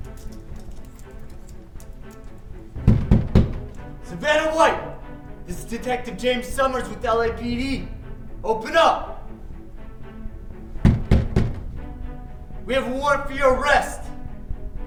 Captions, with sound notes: (intense dramatic music) (loud banging upon door) Savannah White! This is Detective James Summers with LAPD. Open up! (intense dramatic music) We have a warrant for your arrest!